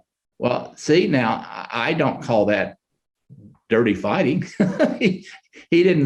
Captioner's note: chuckles